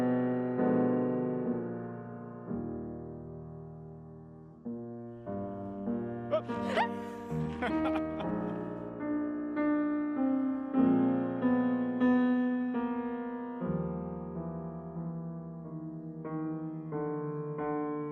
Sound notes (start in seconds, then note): 6.3 laughing; 6.3 screaming